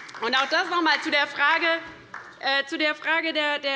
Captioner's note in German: Beifall bei der LINKEN